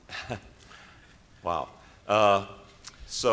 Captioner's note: chuckles